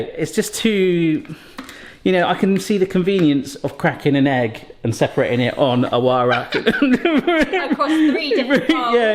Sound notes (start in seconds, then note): 6.2 boisterous laughter